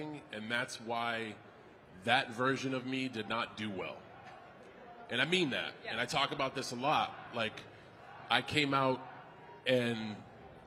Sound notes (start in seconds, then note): none